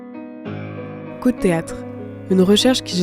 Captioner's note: voice-over